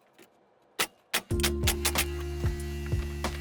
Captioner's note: nails clicking; gentle music